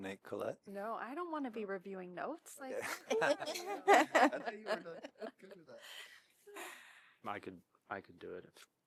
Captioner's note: laughter